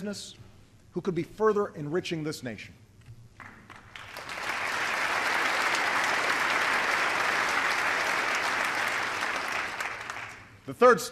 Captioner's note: applause